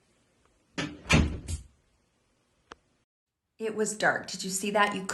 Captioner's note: door closes